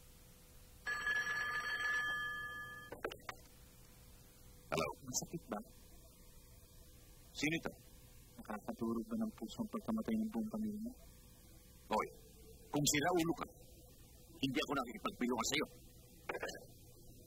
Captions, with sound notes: [phone rings] –Hello? -Does it hurts? Who is this? Did your family’s death broke your heart? Hey! If you’re crazy, I don’t have time for you.